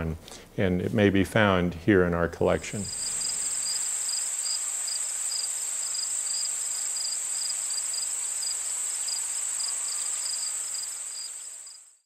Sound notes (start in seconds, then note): 3.3 insect sounds